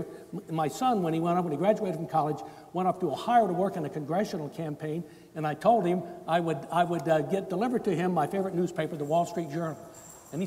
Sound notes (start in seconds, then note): none